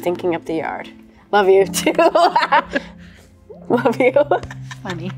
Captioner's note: laughs